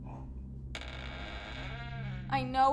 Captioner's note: door creaks